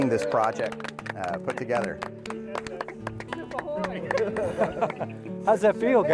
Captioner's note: applause